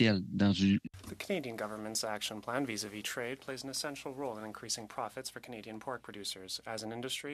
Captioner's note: speaking French